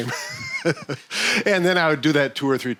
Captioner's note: laughs